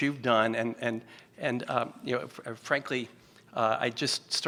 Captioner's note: stutters